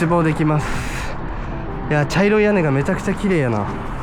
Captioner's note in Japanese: ため息